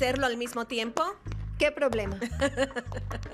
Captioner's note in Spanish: risas